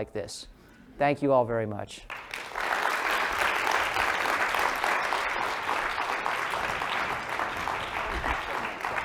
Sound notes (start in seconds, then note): 5.3 applause